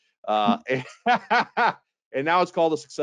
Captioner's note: laughs